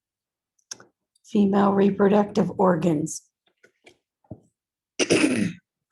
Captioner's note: coughs